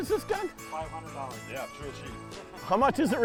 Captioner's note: voiceover